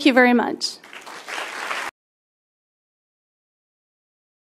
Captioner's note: applause